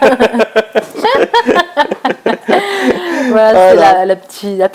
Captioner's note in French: Rires